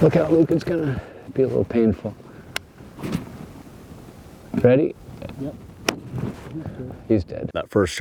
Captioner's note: gun shot